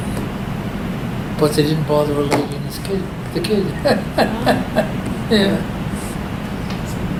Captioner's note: laughs